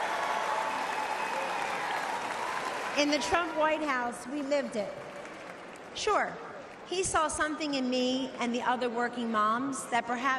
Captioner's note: applause